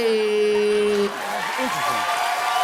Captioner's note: cheers and applause; chuckles